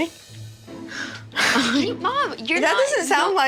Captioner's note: chuckles